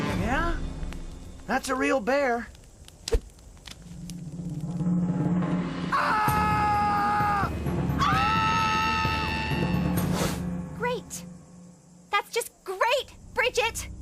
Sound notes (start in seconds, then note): 5.9 Owen Screaming; 7.9 everyone else screaming